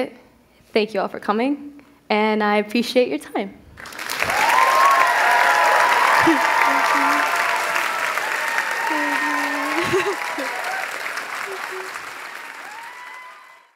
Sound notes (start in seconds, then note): 3.7 applause; 3.8 cheers